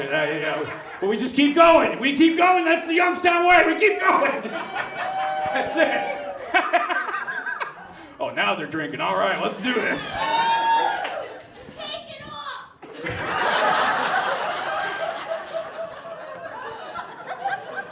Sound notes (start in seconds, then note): 7.8 laughs; 12.8 audience laughs